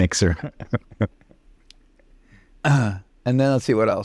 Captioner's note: laughing